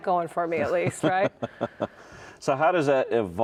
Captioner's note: laughs